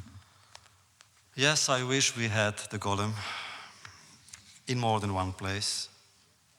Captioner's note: sighs